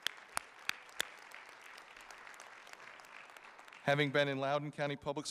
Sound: audience applauding

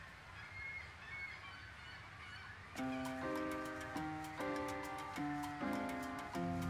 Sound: birds chipping; upbeat music

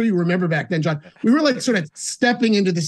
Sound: laughing

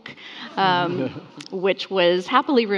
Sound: attendees and panelist laughing

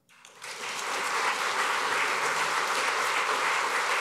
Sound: applause

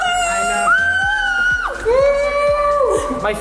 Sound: cheering

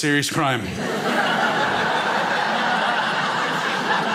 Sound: crowd laughs

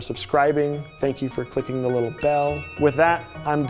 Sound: bell dings

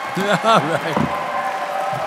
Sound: audience cheering

